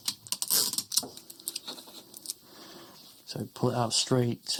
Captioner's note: tape scraping